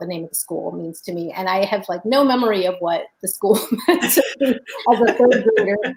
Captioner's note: laughs